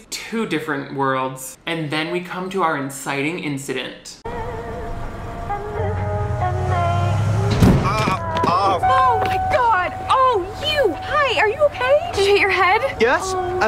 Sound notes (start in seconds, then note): 7.5 body thudding; 7.8 groaning